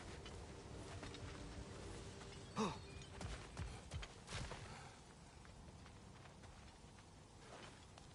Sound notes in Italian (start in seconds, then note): 2.5 gemito